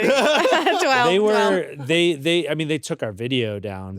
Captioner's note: laughs